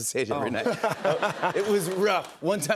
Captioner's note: laughter